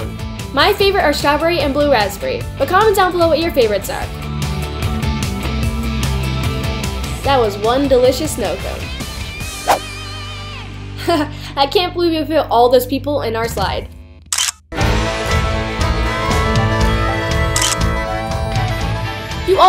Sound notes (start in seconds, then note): 11.1 laughs; 14.3 camera shutter clicks; 14.8 upbeat country music plays; 17.6 camera shutter clicks